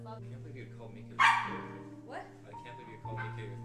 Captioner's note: dog Barking